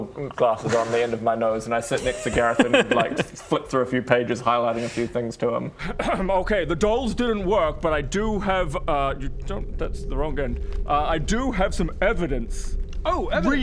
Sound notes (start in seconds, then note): 6.0 ahem